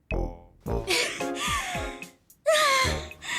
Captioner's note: upbeat, goofy music plays; gasping